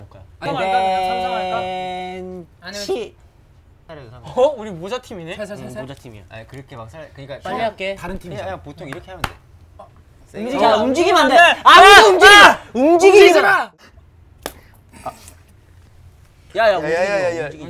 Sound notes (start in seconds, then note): 9.2 slap; 14.4 slap